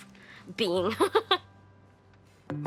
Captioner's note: laughing